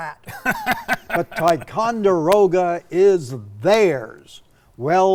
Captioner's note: laughing